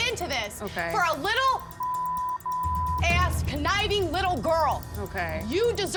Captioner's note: beep